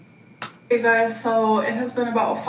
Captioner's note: keyboard key clicking